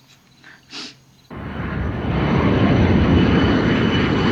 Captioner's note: aeroplane landing